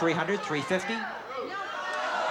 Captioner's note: audience yelling